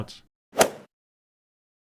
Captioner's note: swoosh